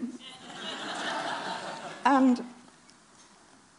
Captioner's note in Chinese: Laughter; 笑聲